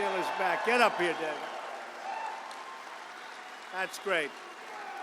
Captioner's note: applause